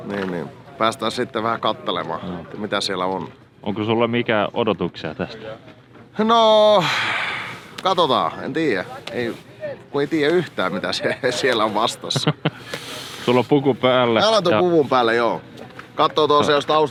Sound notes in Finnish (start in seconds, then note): 6.7 huokaisee; 12.0 naurahtaa